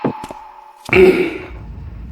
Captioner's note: cough cough